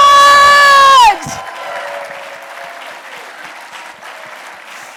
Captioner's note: audience applauds